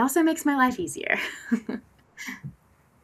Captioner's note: laughs